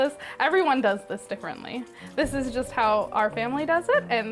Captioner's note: syrup sloshing